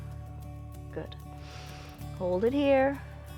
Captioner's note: inhales